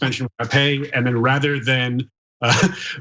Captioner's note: laugh